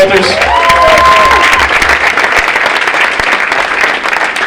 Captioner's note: audience applauding